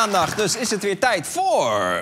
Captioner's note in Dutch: gejuich